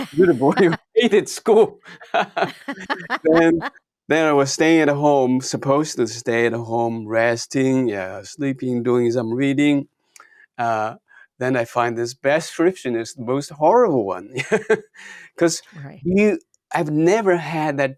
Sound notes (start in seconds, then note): 0.0 laughs; 1.8 both laughing; 14.4 laughs